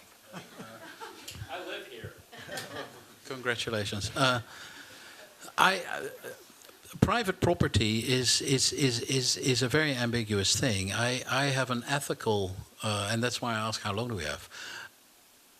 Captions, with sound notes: [laughter] I live here. [laughter] Congratulations. Private property is a very ambiguous thing. And that's why I ask how long do we have.